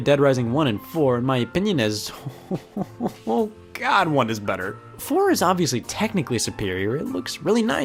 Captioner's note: chuckles